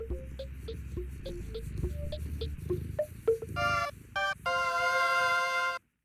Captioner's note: Cauliflower purring